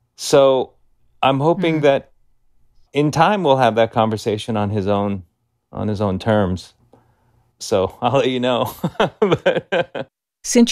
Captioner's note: laughter